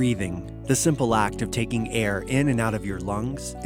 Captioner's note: piano music; voiceover